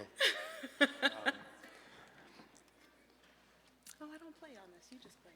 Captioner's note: laughing